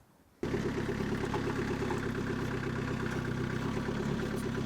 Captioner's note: motor rumbling